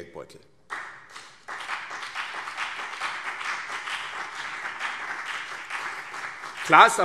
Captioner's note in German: Beifall BÜNDNIS 90/DIE GRÜNEN und vereinzelt CDU